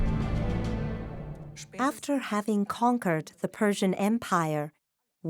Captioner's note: in German